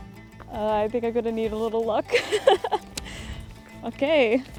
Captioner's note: laughs